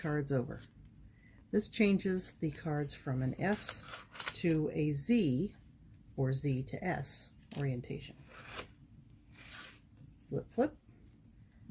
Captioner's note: flip flip